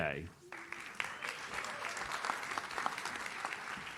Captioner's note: audience claps